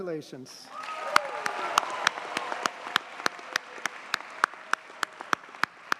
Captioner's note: audience cheers and applauds